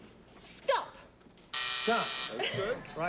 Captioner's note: buzzer